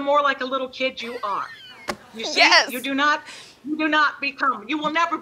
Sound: laughing

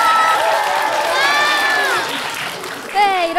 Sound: applause

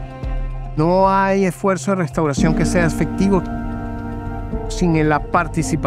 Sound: speaking in foreign language

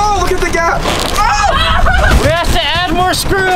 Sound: screaming

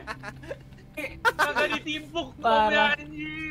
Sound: laugh

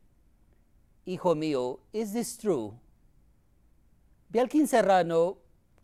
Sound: speaking in foreign language

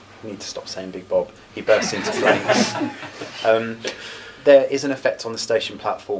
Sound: laughter

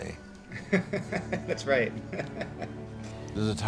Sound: laughing

